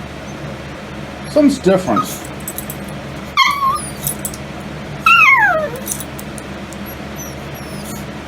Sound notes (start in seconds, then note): 4.9 Ella whimpers